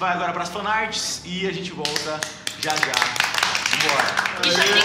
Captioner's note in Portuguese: aplausos